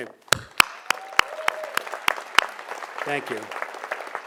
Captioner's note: audience applauds